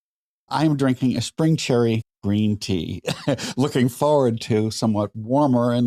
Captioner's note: laughter